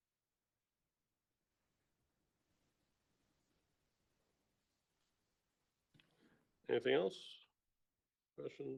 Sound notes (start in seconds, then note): 2.4 silence